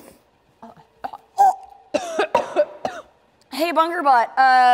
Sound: gags and coughs

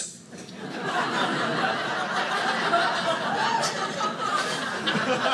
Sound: audience laughing

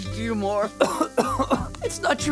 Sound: coughing

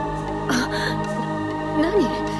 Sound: gasp

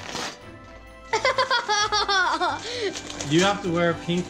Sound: laughter

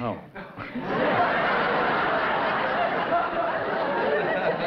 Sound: laughter

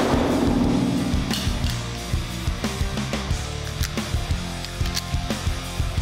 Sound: magazine falls; cocks gun

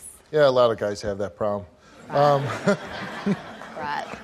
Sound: audience laughs

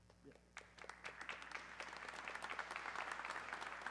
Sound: audience clapping

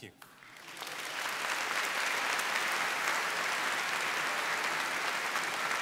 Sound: applause

